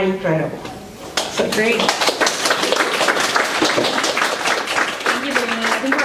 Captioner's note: applause